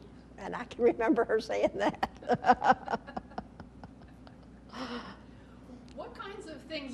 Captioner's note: laughter